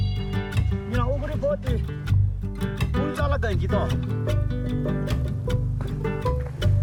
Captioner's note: slow guitar music; speaking in Sherpa language